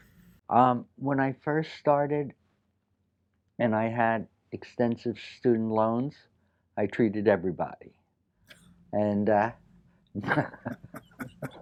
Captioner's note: laughs